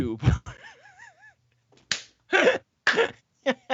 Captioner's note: all laughing